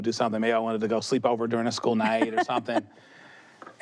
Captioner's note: she chuckles